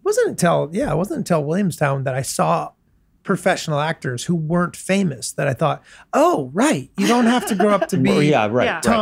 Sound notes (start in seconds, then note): 7.0 laughs